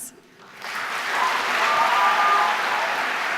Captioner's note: applause